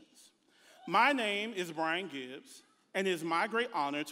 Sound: audience member hollers

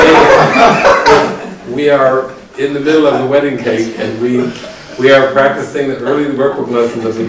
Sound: laughing

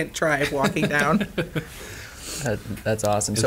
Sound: laughing

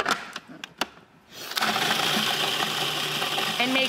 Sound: grinding

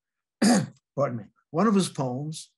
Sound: clears throat

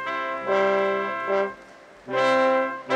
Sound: none

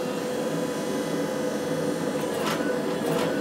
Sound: machine whirring

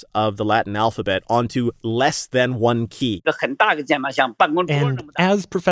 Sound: speaking Mandarin

